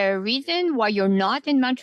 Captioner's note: speaking French